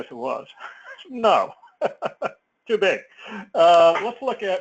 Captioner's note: laugh